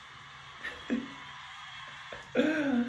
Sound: giggles

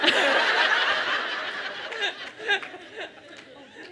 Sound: laughter

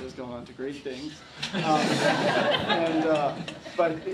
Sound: laughter

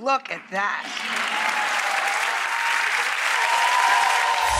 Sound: applauding

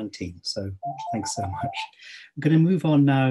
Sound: laughs

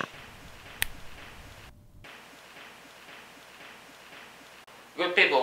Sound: snap

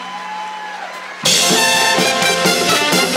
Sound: audience cheers; upbeat music

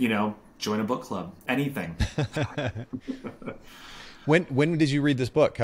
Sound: both laugh

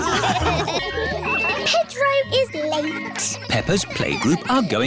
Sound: kids giggling

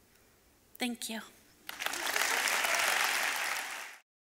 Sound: crowd clapping

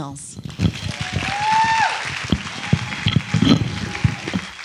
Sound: audience applauding

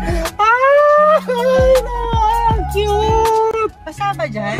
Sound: screaming with excitement

